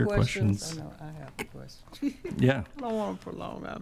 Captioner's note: chuckles